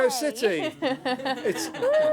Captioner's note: laughter